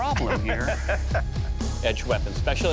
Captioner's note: laughs